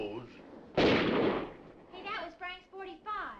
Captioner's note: guns firing